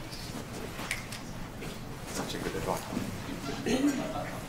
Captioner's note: background chatter